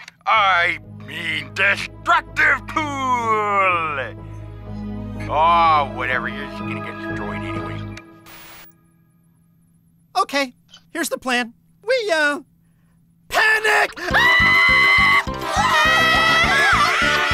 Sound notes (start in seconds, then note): 8.2 static hissing; 13.6 screaming; 14.0 scream